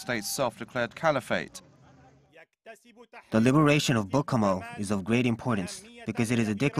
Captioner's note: Arabic